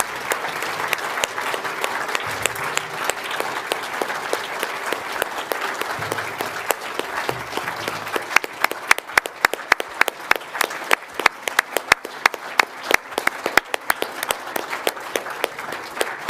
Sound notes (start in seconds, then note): 0.8 applause